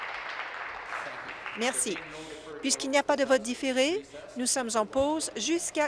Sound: applause

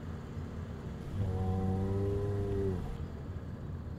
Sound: bull mooes

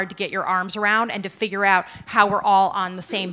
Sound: laughter

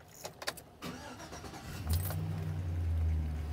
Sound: engine starts

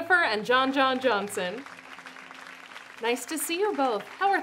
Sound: audience applauds

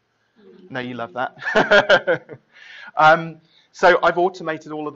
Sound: laughing

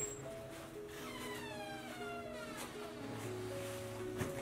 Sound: door creaks

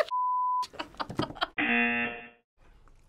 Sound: both laugh; buzzer

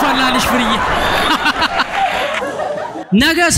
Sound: laughter

